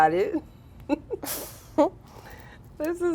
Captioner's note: girls laughing